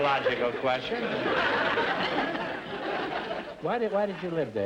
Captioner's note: audience laughter